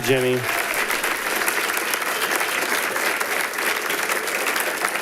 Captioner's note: audience applauding